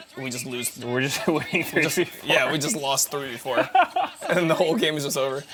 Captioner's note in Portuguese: risos